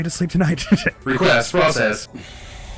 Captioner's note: as Alter Ego